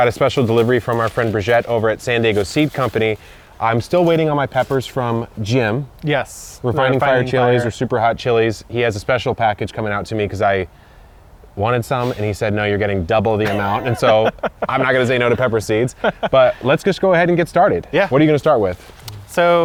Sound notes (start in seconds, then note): 13.4 laughs